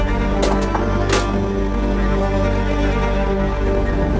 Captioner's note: frame clattering